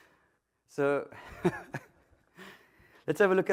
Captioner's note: laughter